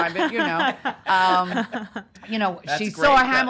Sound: laughing

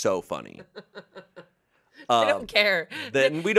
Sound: laughs

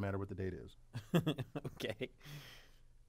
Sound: laugh

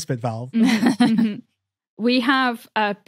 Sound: chuckles

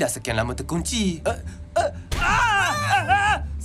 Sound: grunts, groaning; Gopal yelps

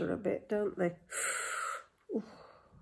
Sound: inhales sharply

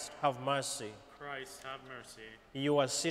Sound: crowd

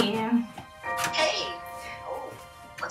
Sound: on phone

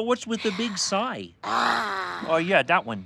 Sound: sighs

